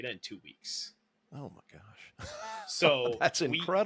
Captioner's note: laughs